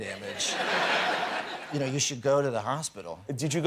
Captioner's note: laughter